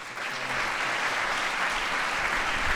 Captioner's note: applause